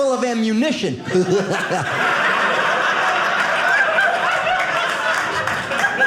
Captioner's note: audience laughing